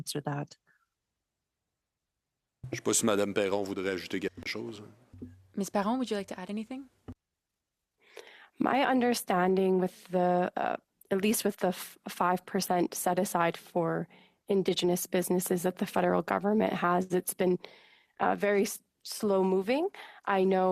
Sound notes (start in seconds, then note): 6.9 speaking French